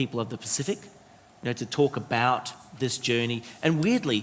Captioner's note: none